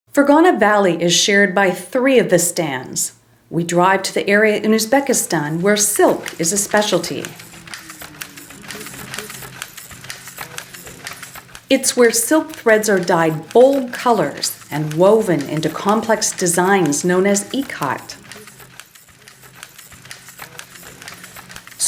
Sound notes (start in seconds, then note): 7.9 sound of loom; 18.9 sound of loom